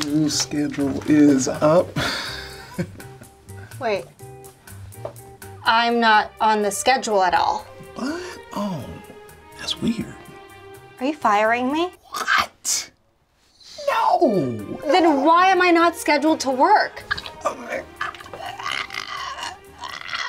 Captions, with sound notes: - New schedule is up. - Wait, I'm not on the schedule at all. - What? Oh, that's weird. - Are you firing me? - What? No. - Then why am I not scheduled to work? (stuttering)